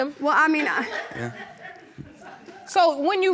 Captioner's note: audience laughs